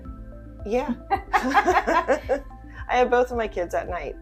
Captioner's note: both laughing